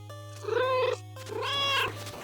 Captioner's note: meow